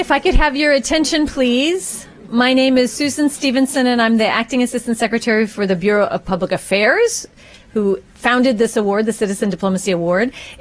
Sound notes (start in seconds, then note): none